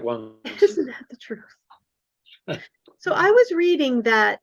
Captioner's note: laughing